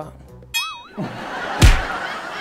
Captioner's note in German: Pling, Lachen, Knall